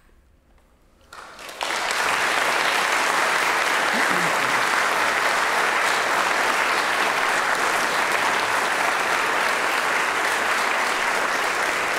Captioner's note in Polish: aplauz